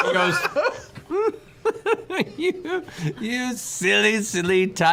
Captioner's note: laughs